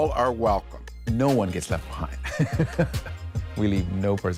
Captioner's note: laughs